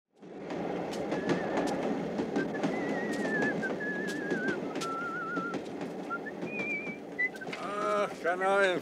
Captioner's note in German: Pfeift